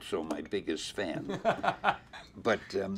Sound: interviewer laughs

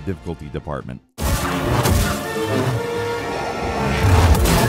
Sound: lightsabers buzzing and crackling; brooding orchestral music

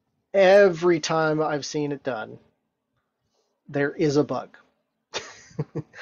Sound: laughs

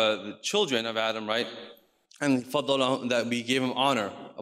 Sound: speaks in foreign language

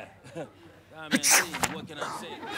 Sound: sneezes

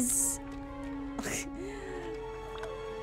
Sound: laughs

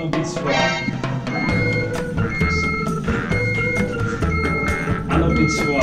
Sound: strong beeping noises coming from the Professor's desk

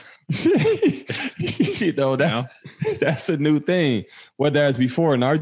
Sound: laughs

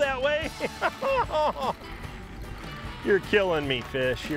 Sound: whining

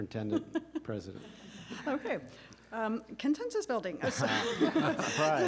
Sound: laughter

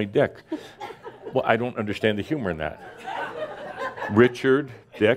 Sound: more chuckles

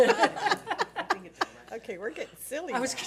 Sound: board laughs

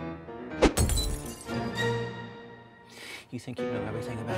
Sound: shattering

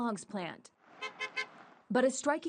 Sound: nats honking

